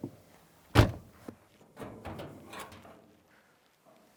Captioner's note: car door slamming